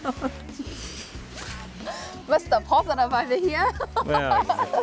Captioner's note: laughs